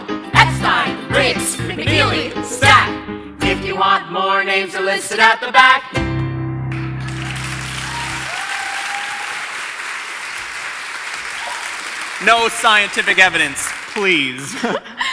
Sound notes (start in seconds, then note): 6.0 piano music ends; 6.8 audience cheers and applause